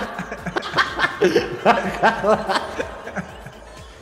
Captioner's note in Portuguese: risos